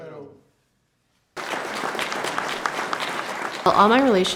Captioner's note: audience applauding